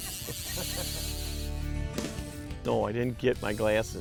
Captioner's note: group laughs